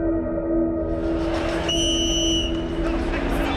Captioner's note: whistle trills